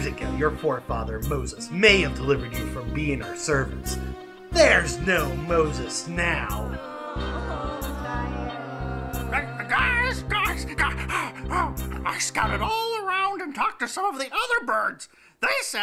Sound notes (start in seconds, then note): 8.0 groaning; 10.1 squawking